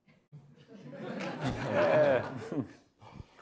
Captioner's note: audience laughs